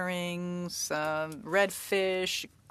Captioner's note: speaking French